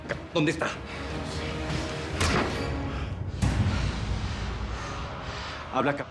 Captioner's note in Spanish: puñetazo